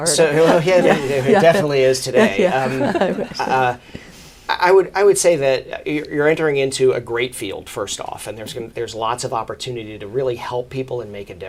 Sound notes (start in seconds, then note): 0.0 laughs